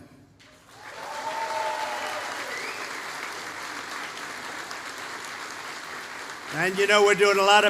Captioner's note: applause